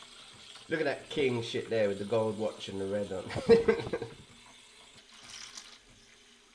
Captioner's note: laughs